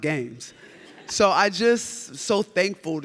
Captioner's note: audience laughs